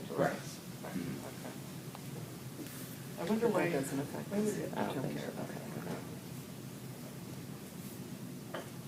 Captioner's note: indistinct conversations